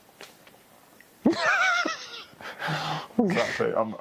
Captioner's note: laughs